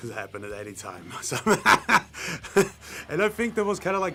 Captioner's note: laughs